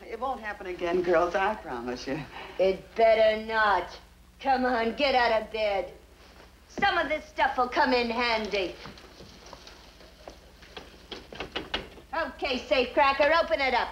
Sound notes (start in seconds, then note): 9.0 cabinet rattles